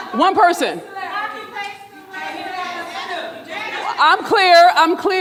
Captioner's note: audience murmuring drowns out speaker